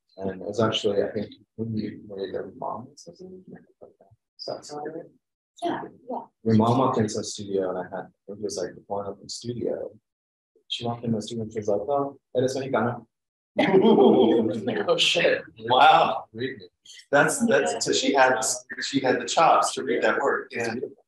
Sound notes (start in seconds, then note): 13.6 laughter